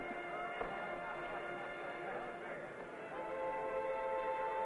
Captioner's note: people chattering